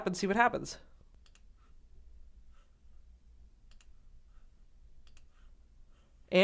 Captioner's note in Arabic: صوت فارغ